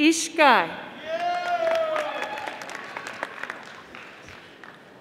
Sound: audience applauding

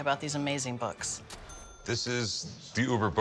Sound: ding

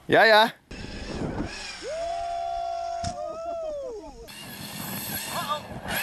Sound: RC truck wheels spinning

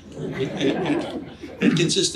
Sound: audience laughs

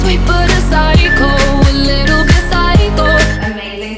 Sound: alarm beeping

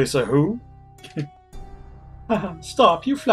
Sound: laughs softly

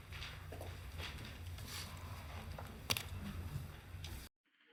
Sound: papers and people rustling

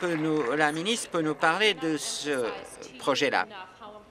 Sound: applause

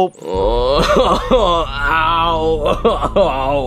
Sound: Mario wails

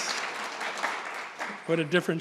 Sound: audience applauding

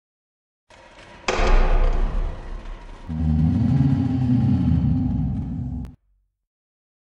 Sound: ghost sound

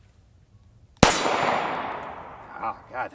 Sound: gun fires once

